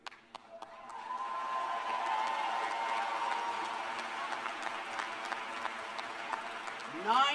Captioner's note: cheers and applause